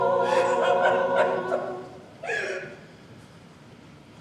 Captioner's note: woman sobs